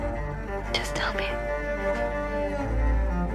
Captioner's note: voiceover